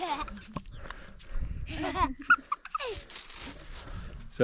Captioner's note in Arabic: يضحك